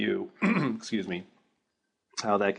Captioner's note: cough